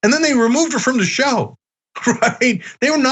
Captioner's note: laugh